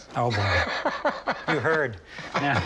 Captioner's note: laughs